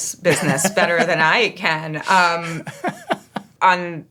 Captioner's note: laughing